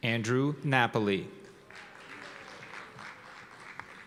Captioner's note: applause